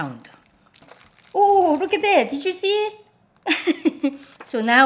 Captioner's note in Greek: γέλιο